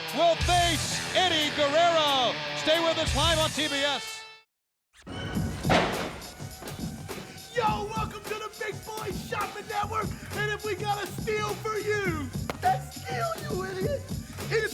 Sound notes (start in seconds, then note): 5.2 objects thudding; 5.2 upbeat music